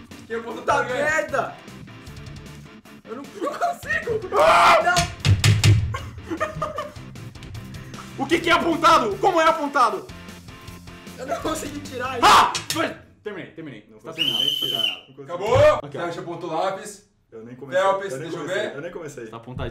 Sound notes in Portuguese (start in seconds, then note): 14.1 Som de Apito